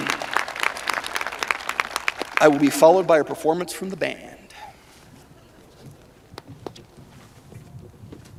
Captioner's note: cheers and applause